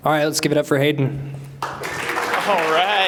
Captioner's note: applause